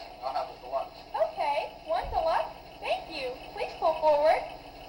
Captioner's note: voiceover